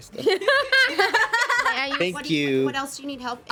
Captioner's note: everyone laughs